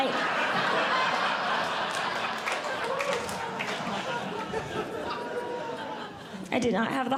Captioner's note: audience Laughing